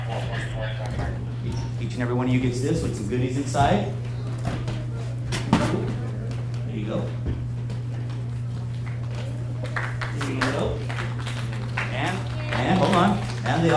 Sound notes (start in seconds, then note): 0.1 people chattering; 5.3 object thuds; 10.9 officer faintly speaks; 10.9 students clapping